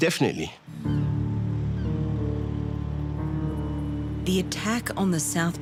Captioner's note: tense thoughtful music; birds cawing